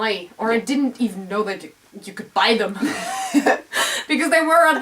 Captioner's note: laugh